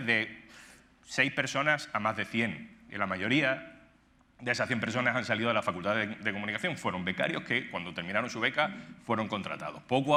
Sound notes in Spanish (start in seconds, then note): none